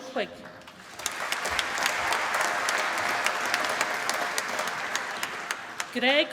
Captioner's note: applause